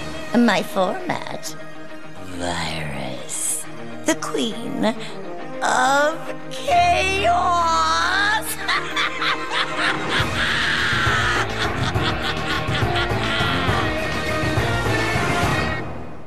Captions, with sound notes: Hexadecimal - "My format: Virus. "The Queen of Chaos!" [EVIL LAUGHTER]